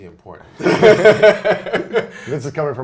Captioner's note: laughs